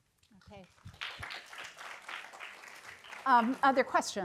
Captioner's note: applause